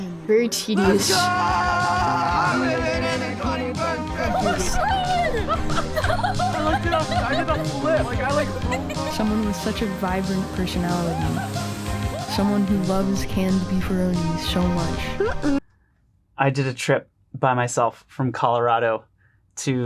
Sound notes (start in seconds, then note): 6.4 laughing